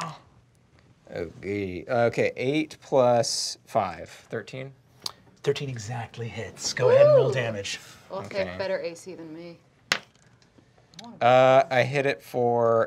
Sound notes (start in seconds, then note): 9.9 dice clacking